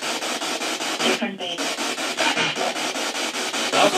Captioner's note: spirit box